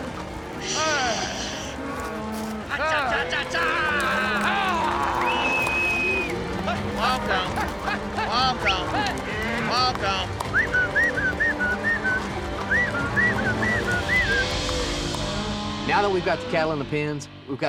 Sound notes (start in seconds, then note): 5.4 whistling, prompting cattle